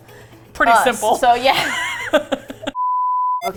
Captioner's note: both laugh